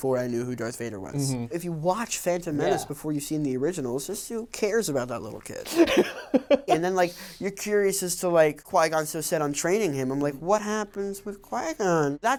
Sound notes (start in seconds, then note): 5.7 laughs